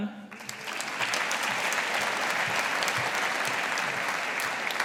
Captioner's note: audience applauding